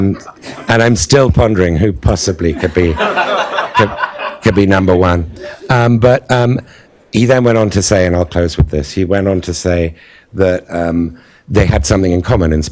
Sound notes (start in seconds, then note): 2.5 laughter